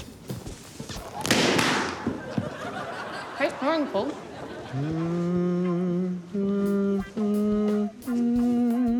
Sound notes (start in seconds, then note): 1.1 pop!; 5.0 hums haunting tune